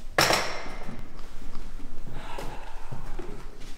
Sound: clatter of tea things; sigh

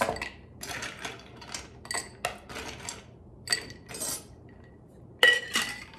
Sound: ice cubes clinking on glass

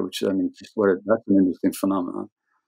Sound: audio cutting out

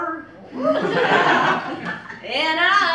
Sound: laughter

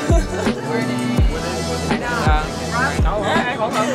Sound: group chattering

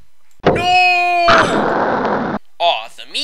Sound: explodes

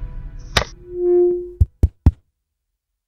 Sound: Static

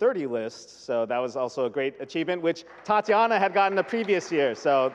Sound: audience clapping

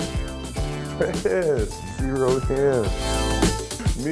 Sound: laughter

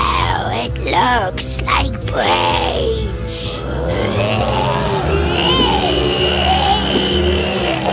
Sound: zombie sounds and rumble

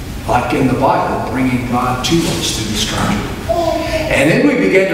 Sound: faintly speaking

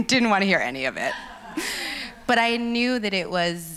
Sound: laughs

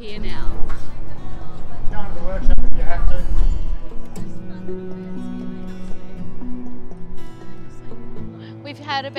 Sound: conversations, Background Music

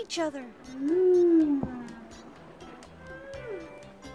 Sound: whales singing

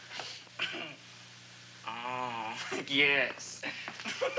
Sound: giggles

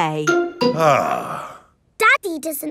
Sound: sighs

